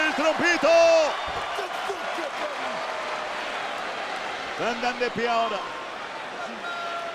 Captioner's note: applause